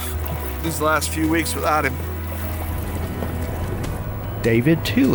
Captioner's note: paddles splashing